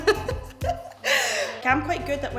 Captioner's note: laughing